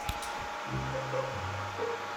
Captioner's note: server still running